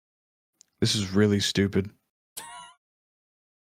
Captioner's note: laughs